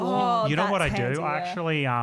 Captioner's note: voice muffled